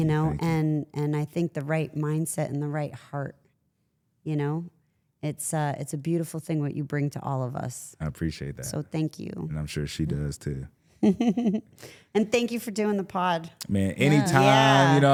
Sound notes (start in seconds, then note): 11.0 laughs